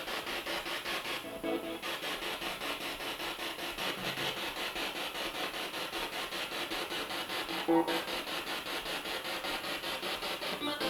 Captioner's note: sound of the Spirit Box in the background